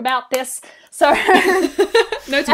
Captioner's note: laughs